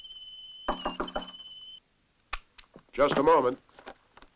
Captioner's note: knock on door